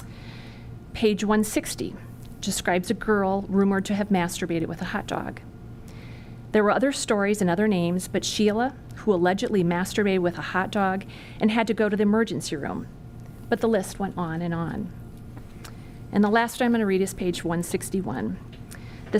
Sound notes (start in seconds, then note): none